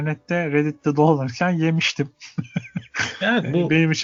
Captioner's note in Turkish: kahkaha